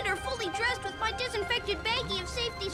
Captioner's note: none